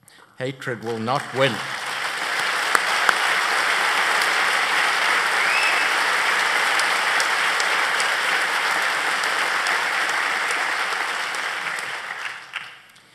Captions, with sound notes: HATRED WILL NOT WIN. [ APPLAUSE ]